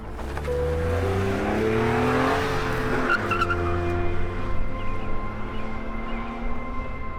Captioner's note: squealing tires